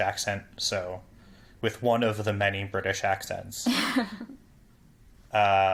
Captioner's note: laugh